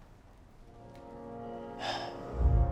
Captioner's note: sighs